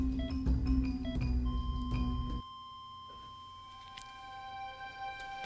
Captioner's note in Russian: сигнал отсутствия пульса